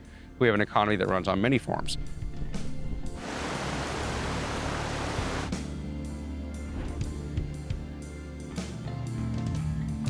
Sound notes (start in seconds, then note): 3.2 water splashing; 6.4 soft music